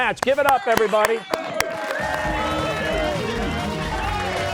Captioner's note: cheers and applause